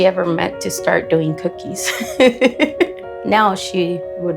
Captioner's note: laughs